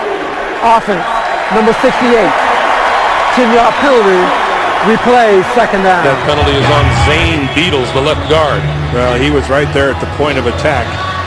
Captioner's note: crowd noise